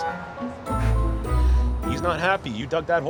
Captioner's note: exasperated huff